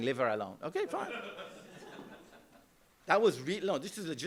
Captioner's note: laughter